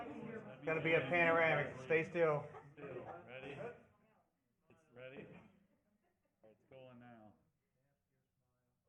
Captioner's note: chatter